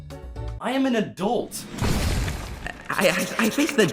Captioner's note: outro wipe thud